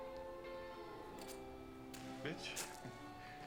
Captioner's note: gun cocks